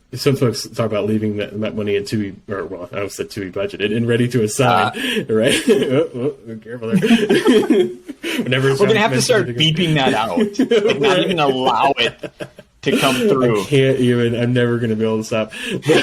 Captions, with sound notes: some folks talk about leaving money into, I almost say to be budgeted and ready to assign. Careful. (laughs) - Gonna have to start beeping that out. Not even allow it to come through. - I can't even, I'm never gonna be able to stop.